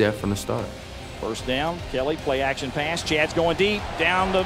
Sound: voiceover

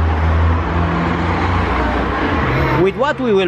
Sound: car sound

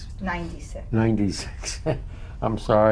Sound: laughs

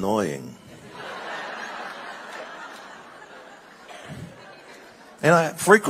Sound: congregation laughing

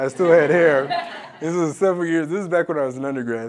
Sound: laugh

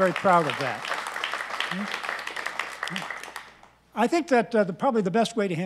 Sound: applause

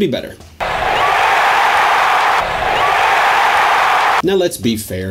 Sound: crowd cheering

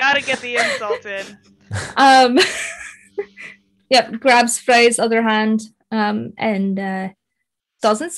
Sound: cast laughing; laughing

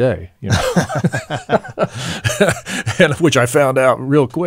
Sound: laughing

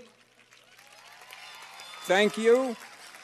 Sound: cheers and applause

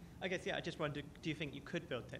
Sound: voiceover

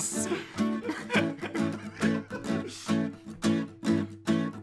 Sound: laughter

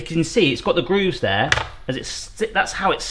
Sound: tray clacks

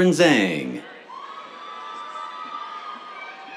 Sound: cheers, applause

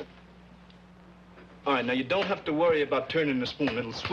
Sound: none

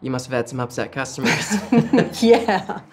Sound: soft laughter

